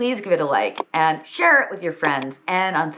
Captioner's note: mouse click notification sound goes